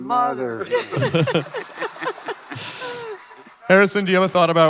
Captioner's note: laughter